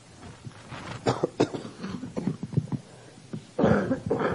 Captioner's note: coughing